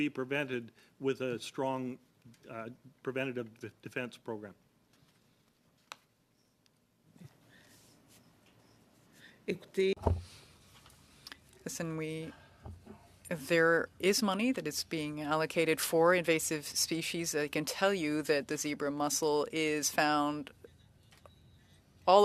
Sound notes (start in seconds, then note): 15.0 speaking French